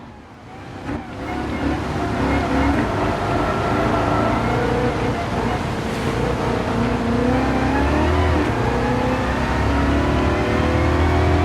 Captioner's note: engines revving, cars noises, rain